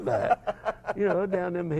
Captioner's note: laugh